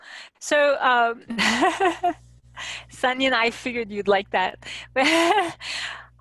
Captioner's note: laughing